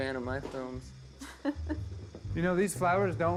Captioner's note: Joan chuckling